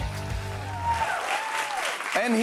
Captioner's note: cheers and applause